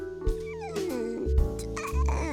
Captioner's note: laughing; meow; barking